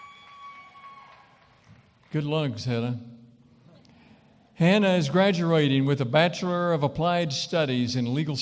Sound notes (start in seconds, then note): 0.0 cheering & applause